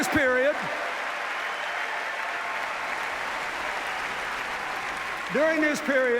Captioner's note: cheers, applause